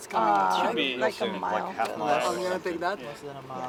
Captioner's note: overlapping chatter